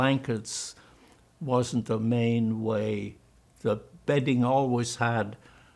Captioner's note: german